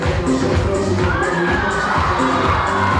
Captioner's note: upbeat music; audience cheering